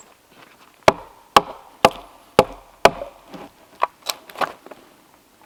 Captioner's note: hammer thudding